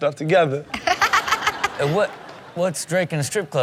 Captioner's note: Chanel laughing